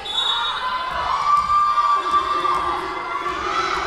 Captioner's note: whistle blowing